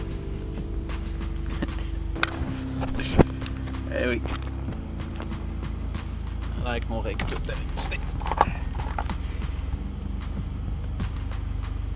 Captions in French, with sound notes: (rire) Et oui, ça l'aire que l'on règle tout avec du ''tape''.